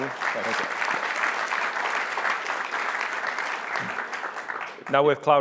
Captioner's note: applause